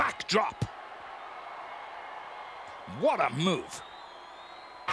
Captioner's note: applause